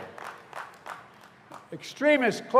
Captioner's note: applause